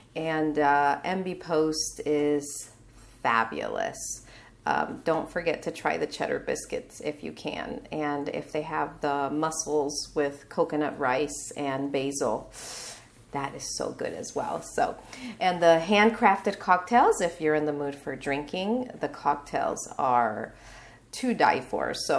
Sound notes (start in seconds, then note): 12.5 inhaling